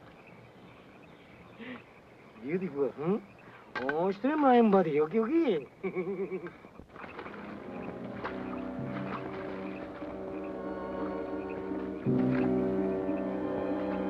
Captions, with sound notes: Beautiful, huh? (speaks Japanese) (soldier laughs) (tense suspenseful music)